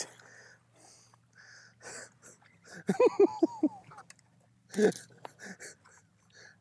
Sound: giggling

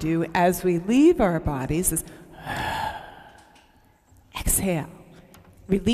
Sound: exhales

